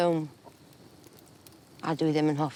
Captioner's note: in Welsh